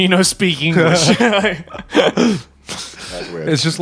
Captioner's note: chuckling